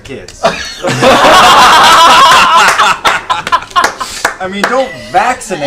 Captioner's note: laughter